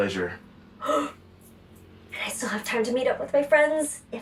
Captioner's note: gasps